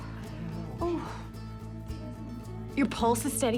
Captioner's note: exhales